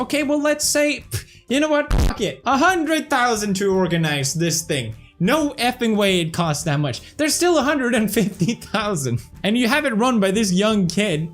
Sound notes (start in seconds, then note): none